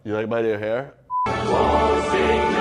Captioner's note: beeps